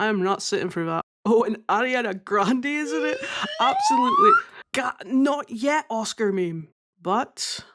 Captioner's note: laughing